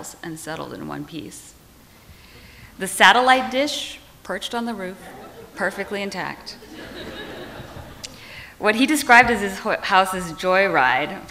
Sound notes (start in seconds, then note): 7.0 audience laughs